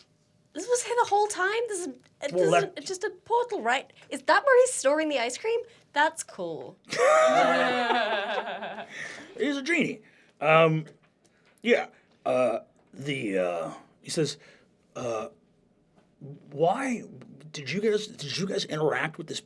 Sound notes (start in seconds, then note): 6.9 laughter; 13.2 natural voice